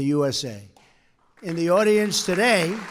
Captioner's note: applause